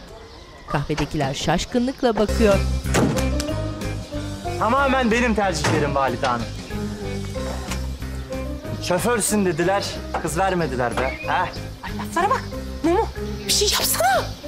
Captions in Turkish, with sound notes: (Kapı açılma sesi) (Kapı kapanma sesi) Tamamen benim tercihlerim valide hanım. Şoförsün dediler kız vermediler be ha. Ay laflara bak! Mumu, bir şey yapsana!